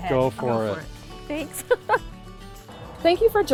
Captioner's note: chuckles